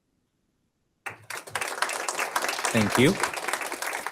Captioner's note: audience applauds